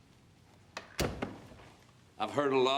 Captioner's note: door clicks shut